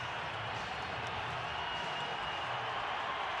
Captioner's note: crowd cheering